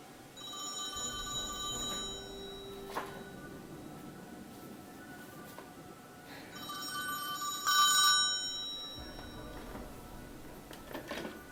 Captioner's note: A rotary phone rings